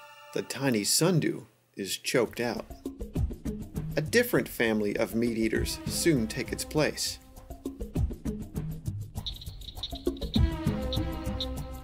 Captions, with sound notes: the tiny sundew is choked out. (Slow percussion music) A different family of meat eaters soon take its place. (Swamp insect ambiance)